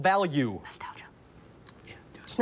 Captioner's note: whispers